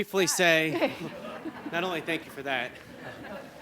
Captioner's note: laughing